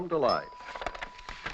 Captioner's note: machine Dinging